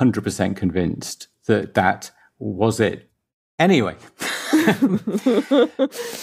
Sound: both laugh

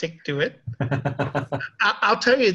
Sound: both laughing

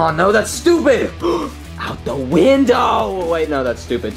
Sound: gasps

